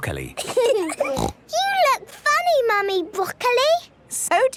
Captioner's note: laughing, snort